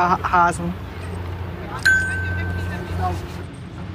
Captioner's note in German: Glockenton